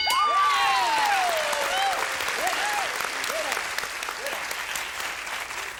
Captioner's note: bell; applause